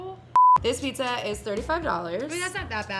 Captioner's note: beep